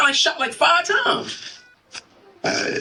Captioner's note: heart monitor